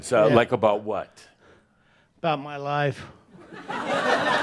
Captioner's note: laughter